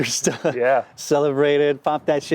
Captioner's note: laughs